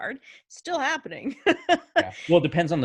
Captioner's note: laughing